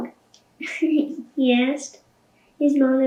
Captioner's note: laughing